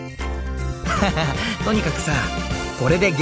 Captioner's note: laugh